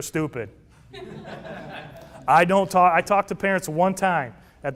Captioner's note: laughter